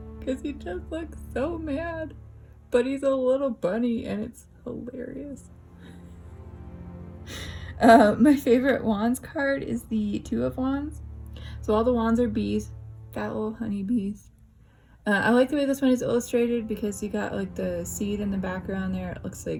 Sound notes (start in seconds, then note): 5.7 laugh